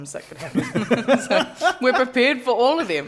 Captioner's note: laughter